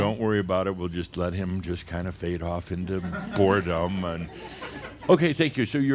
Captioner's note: some chuckles